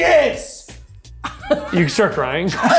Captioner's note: laughs